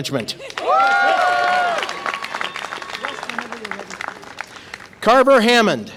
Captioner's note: audience applause and cheer